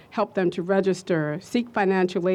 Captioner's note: none